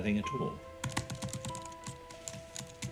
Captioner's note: keys typing